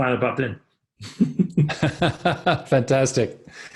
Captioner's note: both laughing